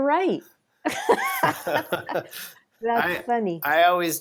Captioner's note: laughs